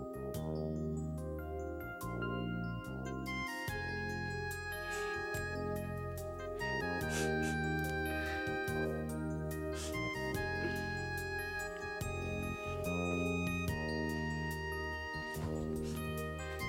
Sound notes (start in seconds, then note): 7.4 sniffling and crying